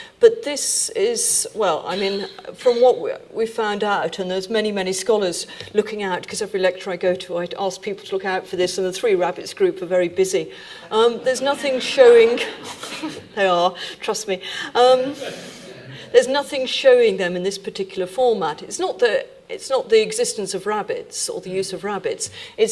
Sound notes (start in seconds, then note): 10.6 audience laughing; 10.6 laughing